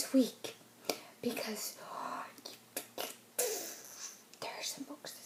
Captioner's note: mouth noises